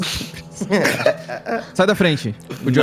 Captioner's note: everyone laughs